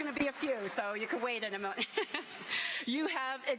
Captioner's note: applause